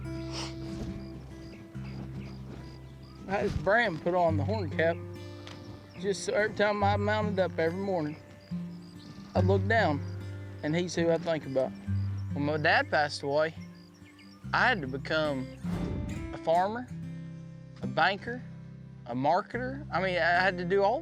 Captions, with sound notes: [SNIFFLES] [TEARFULLY] I HAD HIS BRAND PUT ON THE HORN CAP SO EVERY TIME I MOUNTED UP EVERY MORNING, I'D LOOK DOWN AND HE IS WHO I THINK ABOUT. WHEN MY DAD PASSED AWAY, I HAD TO BECOME A FARMER, A BANKER, A MARKETER.